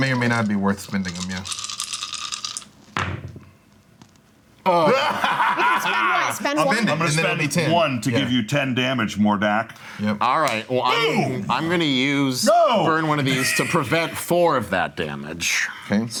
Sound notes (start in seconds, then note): 4.7 laughing